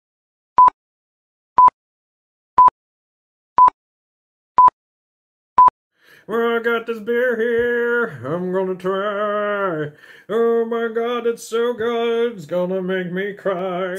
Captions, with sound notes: *BEEP* *BEEP* *BEEP* *BEEP* *BEEP* *BEEP* Well, I've got this beer here. I'm gonna try. Oh my god, it's so good. It's gonna make me cry.